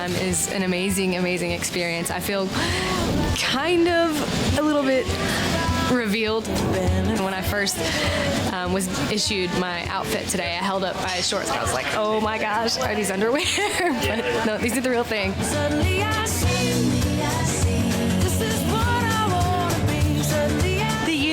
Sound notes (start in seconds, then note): 13.8 laughs